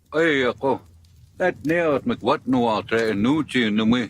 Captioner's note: foreign language